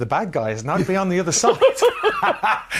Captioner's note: laughs